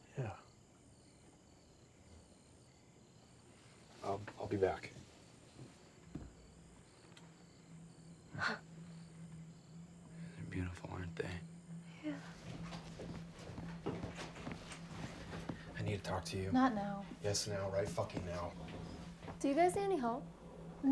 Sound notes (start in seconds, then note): 1.0 crickets chirping; 5.6 crickets chirping; 8.4 Lucy laughs; 11.9 footsteps approaching